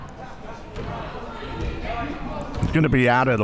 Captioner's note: crowd murmuring